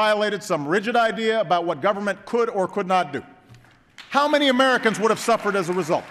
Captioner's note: applause